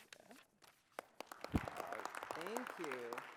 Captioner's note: applause